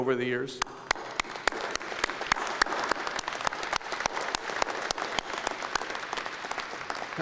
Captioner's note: applause